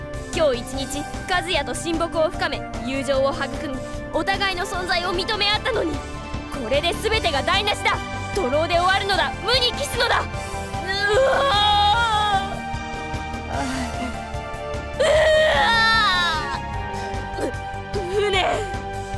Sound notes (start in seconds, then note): 10.9 sob; 14.9 sob